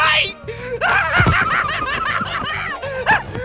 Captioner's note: laughing hysterically